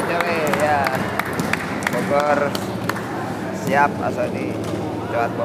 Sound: applause

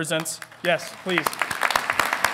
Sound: audience applauding

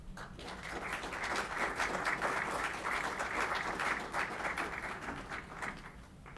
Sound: applauding

